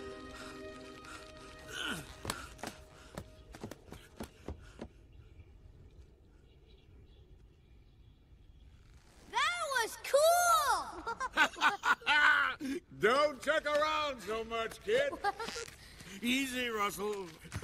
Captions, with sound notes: That was cool! (CARL CHUCKLES) Don't jerk around so much, kid! Easy, Russell.